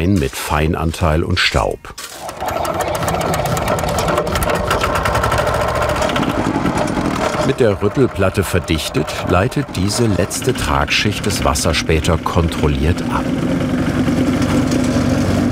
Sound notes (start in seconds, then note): 2.3 rattling; 4.9 engine starts; 13.4 motor rattling